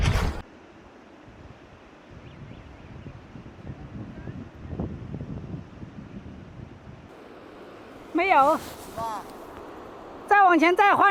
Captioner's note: speaking Chinese